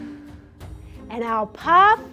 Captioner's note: mouth exhales